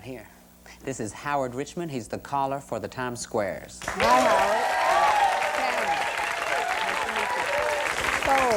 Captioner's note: applause